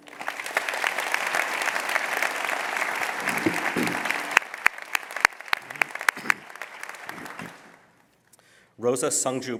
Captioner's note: applause